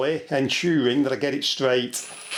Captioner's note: drill noise